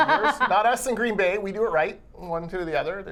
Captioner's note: laughing